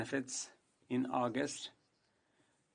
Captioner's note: speaking in French